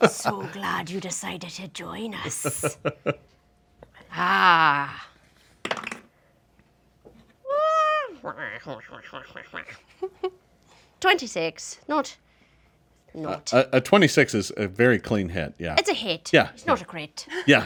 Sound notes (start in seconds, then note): 5.6 dice roll; 8.0 snickers evily